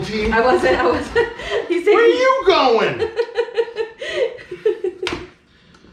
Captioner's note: giggling